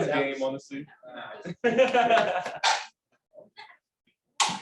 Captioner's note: laughter